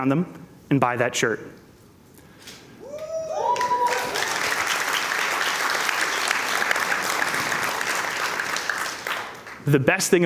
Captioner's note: cheers and Applause